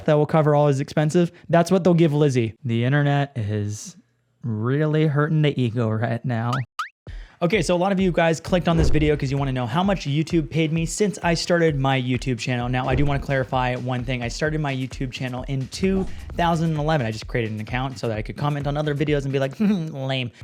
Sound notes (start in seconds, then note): 6.7 small tone beeps